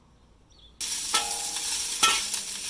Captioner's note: stir frying roast pork